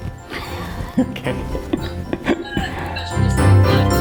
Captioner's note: laughs